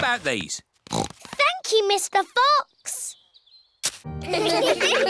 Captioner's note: snorts; laughter